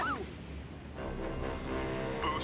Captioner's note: both scream